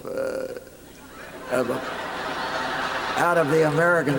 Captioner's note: laughter